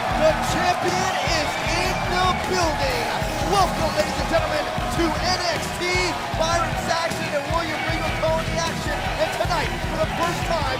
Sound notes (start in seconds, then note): 0.7 crowd cheering